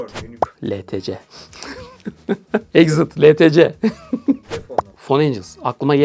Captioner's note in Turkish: kahkaha